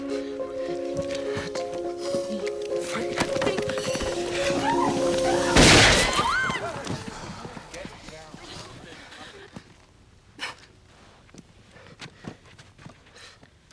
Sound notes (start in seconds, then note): 5.5 gun firing; 6.2 screaming